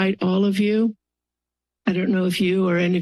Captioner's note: pause